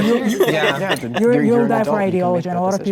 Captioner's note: group members laughing